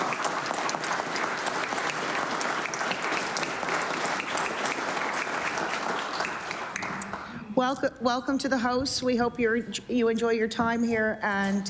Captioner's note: applause